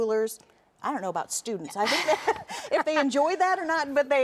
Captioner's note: both laughing